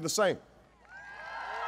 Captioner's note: applause